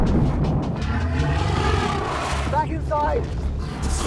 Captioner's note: dragon thuds